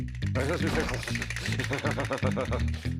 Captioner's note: teeth chattering